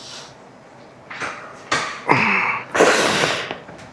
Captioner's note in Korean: 콧방귀